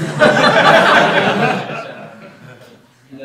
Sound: laughter

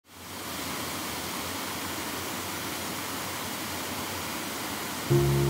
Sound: waterfall ambience

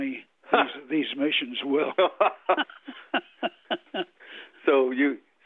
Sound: both laugh

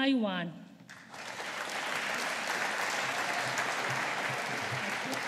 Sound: audience applauding

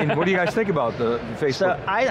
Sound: laughs

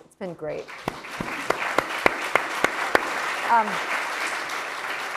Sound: audience clapping

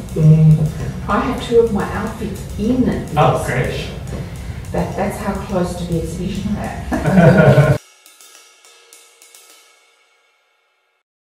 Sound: laughs

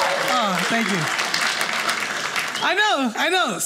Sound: audience cheers

